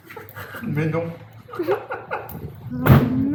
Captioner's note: laugh